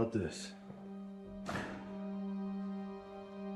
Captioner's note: door shuts